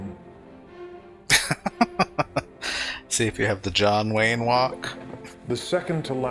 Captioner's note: laughing